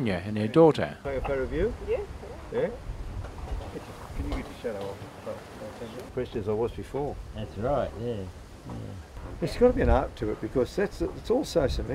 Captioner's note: background chatter